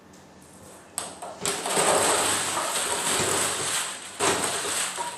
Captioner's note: balls rustling